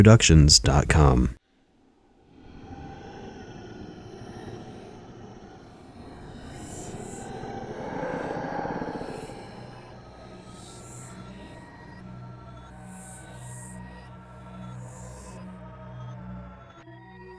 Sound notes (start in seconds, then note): 1.3 ghostly voice